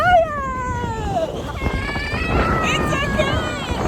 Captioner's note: screaming